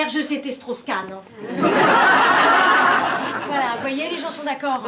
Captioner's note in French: rires